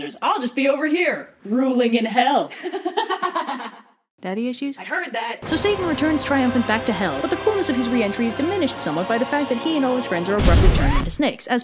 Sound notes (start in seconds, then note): 2.6 laughs